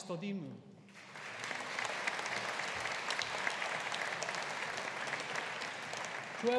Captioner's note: audience applauding